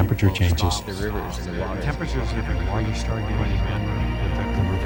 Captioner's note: voices echoing